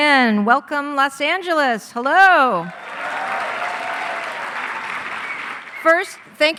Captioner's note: crowd applauding loudly